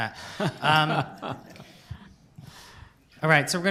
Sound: laughter

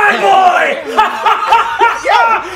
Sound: laughing

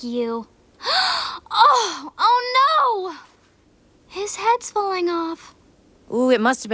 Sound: Kiki gasping

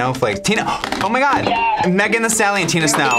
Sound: yeah buzzer sounds

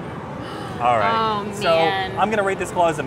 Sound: gasps

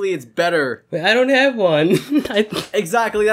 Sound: giggling

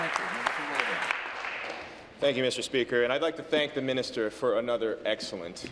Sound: applause

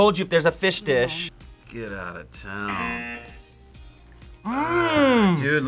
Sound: buzzer

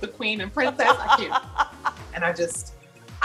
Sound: laughs

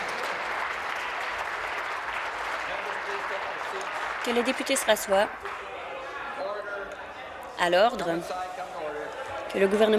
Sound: applause

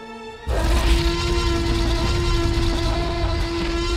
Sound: roaring

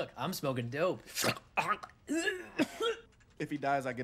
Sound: choking

